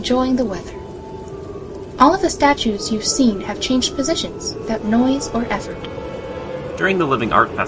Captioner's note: sounds of voices echoing softly behind the music